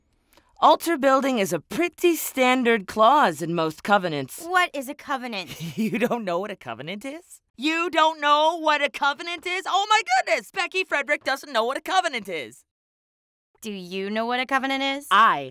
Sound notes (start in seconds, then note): 5.5 laughing